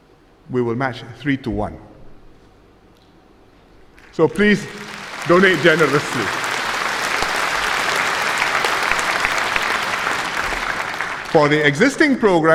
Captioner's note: applause